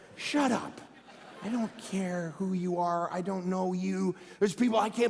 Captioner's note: congregation laughing